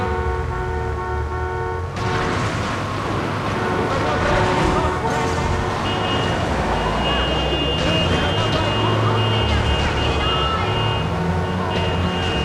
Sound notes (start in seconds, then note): 0.2 somber music; 3.5 yelling